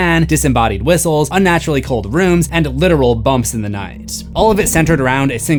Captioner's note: bumps